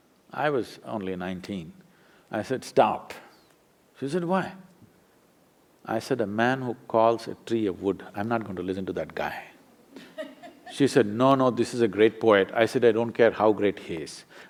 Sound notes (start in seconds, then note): 9.9 few laugh